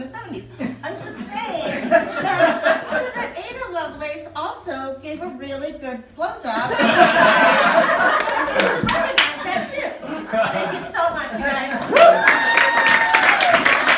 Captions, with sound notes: I'm just saying that I'm sure that Ada Lovelace also gave a really good blowjob and, you guys.... (audience laughing) And we should recognize that, too. Thank you so much, you guys. (audience cheering and applauding)